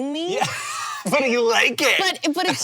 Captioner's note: laughing